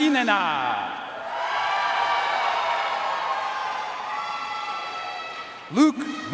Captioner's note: audience cheering and applauding